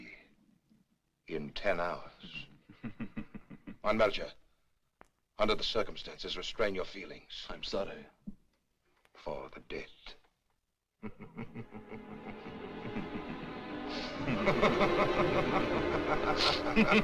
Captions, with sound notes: in 10 hours. [Chuckling] Von Melcher. Under the circumstances, restrain your feelingsó I'm sorry. for the dead. [Both Chuckling, Laughing]